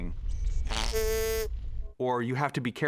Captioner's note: snorts